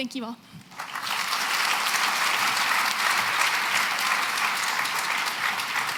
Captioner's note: applause